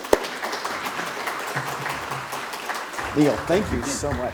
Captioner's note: applause